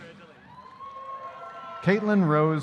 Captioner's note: audience cheering